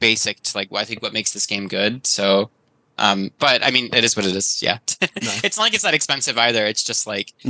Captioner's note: laughs